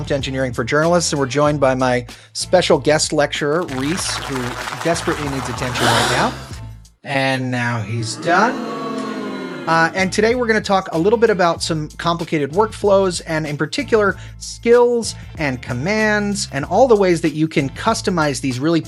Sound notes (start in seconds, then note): 3.6 applause